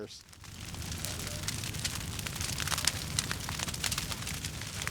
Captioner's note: fire crackling